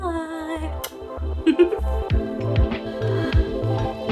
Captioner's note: giggles; upbeat electronic music